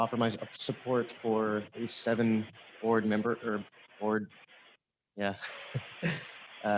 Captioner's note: chuckles